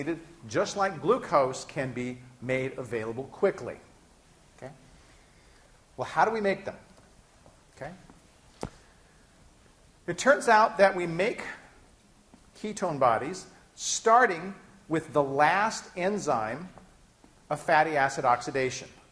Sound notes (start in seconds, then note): none